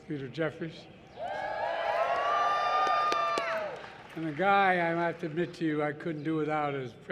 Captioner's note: applause